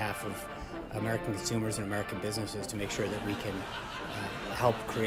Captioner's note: raucous laugh track